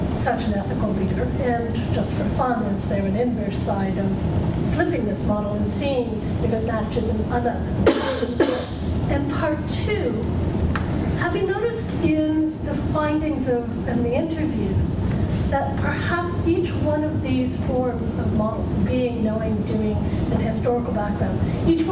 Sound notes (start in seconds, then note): 7.8 cough